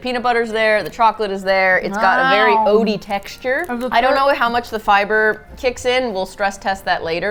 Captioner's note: takes loud bite